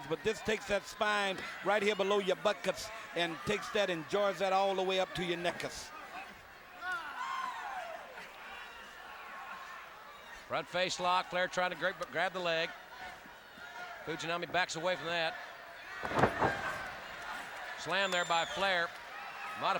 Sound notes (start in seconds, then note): 6.7 audience cheering; 16.0 body slamming